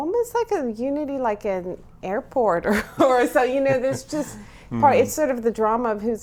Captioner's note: laughs